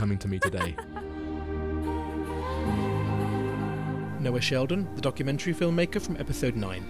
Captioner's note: voiceover